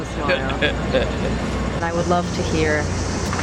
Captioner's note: man laughs